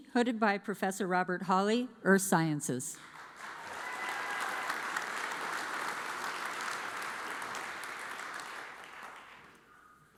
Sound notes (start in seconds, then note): 3.1 audience applauds